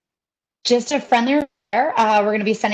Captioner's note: audio is choppy